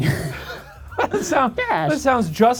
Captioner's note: laughter